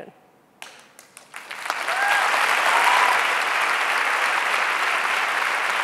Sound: audience cheering and clapping

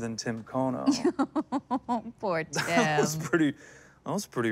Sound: laughing

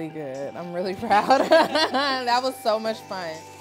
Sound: all laughing

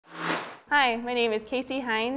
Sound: sound Effects

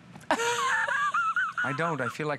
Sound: laughter

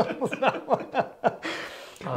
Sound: both laughs

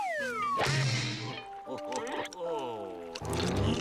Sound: laughing

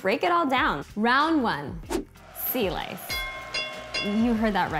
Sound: bell ringing

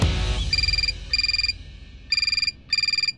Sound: phone ringing

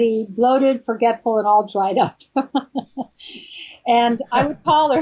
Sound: laughs

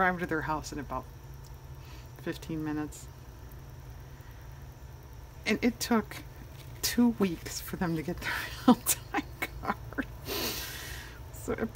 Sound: laughs

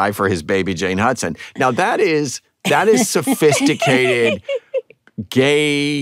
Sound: laughter

